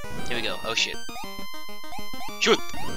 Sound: shoot noise that sounds like a hop

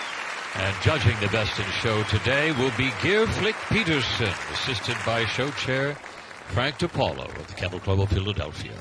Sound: cheers and applause

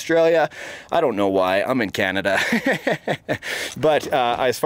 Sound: laughs

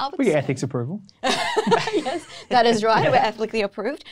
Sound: laughs

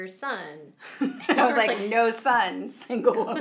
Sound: laughing

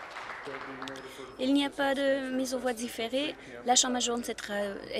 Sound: applause

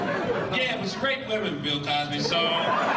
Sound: audience laughing

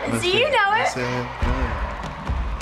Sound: cheers along; both cheer along

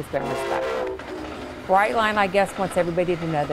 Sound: train horn blaring

